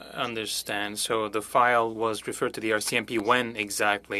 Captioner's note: speaking French